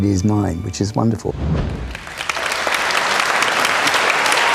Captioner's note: audience clapping